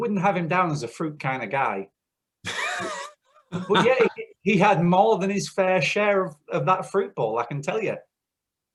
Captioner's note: laughter